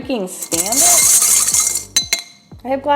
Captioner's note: glass clanking